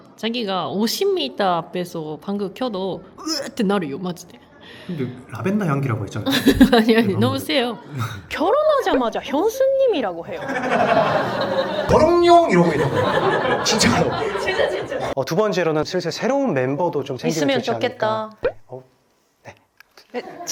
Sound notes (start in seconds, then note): 10.2 laughs